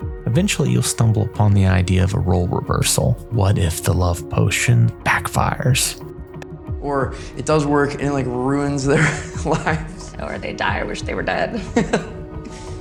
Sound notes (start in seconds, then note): 9.0 chuckles